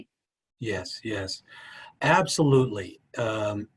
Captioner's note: none